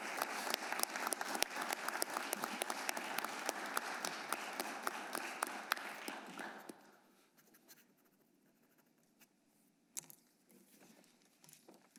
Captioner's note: applause